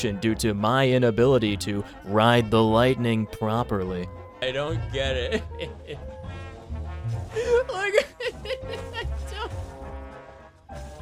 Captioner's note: laughsobbing